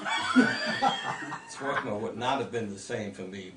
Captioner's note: group laughter